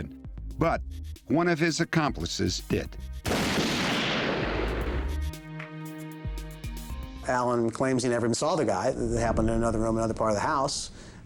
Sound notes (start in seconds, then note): 3.2 gun shots